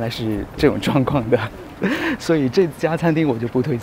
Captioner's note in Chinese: 苦笑